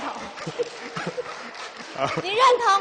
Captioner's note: applause with laughter